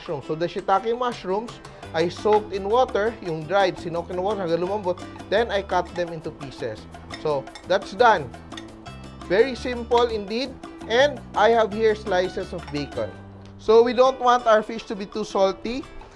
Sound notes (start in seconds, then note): 8.4 clang